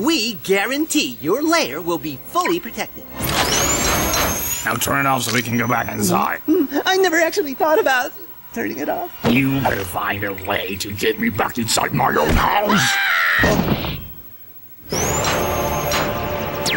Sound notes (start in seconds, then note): 6.2 gulp; 12.7 poor baby screams; 13.6 roblox death sound